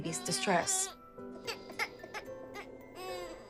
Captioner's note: baby crying